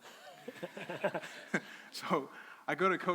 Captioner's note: crowd laughing